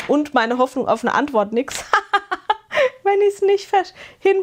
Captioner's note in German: gelächter